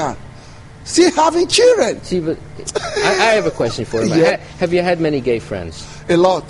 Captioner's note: laughs